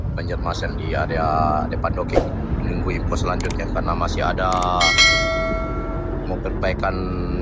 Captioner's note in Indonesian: lonceng